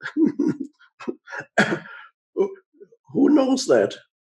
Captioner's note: laughs